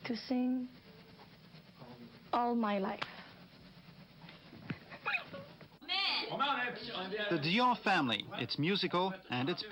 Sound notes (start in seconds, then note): 4.8 laughing; 6.5 indistinct chatter